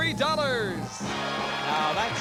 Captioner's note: applause